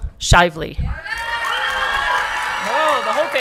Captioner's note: audience clapping and cheering